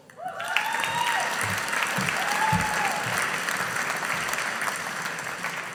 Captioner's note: audience applauding